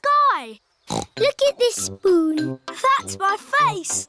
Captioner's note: snorts